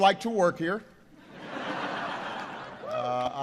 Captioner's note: laughter